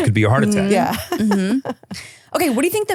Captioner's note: laughing